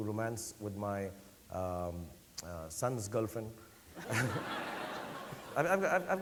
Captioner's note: audience laughing